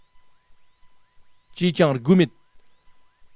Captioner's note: tibetan